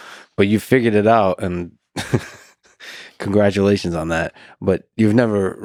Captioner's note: Lex laughs